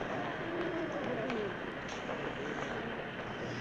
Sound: groaning

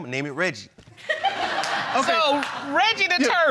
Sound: crowd laughing

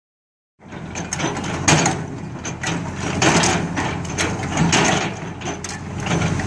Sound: excavator bucket makes loud crashing noise against pavement

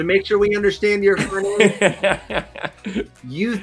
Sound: laughing

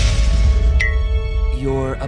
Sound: explosion bangs; blink pings

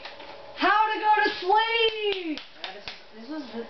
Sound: applauds

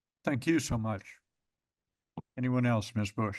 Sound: pause

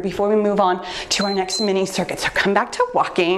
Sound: timer beeps

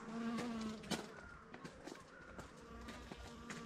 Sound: bee buzzing

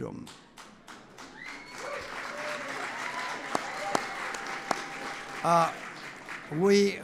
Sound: applause

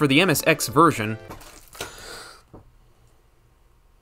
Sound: takes a deep breath after water is being chucked at him

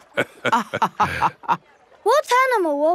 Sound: both laughing

